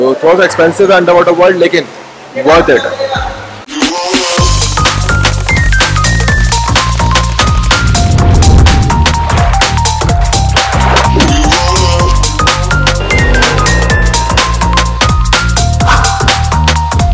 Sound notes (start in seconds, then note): 3.9 water Sound